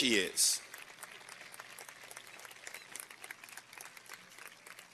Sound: applause

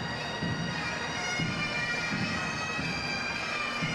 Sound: none

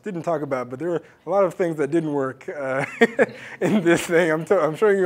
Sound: laugh

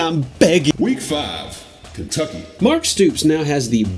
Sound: automated Voiceover

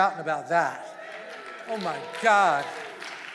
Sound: congregation cheering

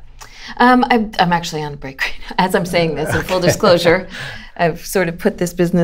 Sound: laughter

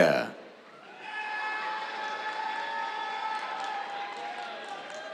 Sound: cheers, applause

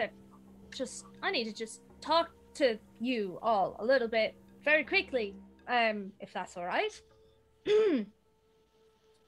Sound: clears throat

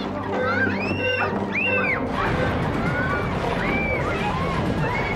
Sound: screaming

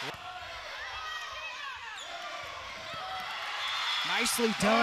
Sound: players yelling

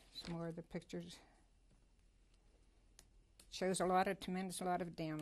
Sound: pauses for 3 seconds

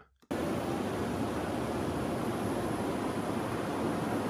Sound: city buzzing

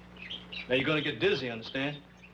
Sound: bed squeaking

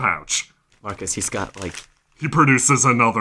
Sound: paper crinkling

